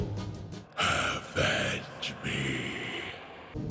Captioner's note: demonic voice